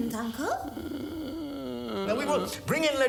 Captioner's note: groaning continues